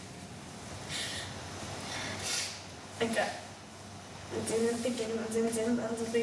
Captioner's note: speaking in foreign language